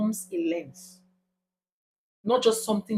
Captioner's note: paause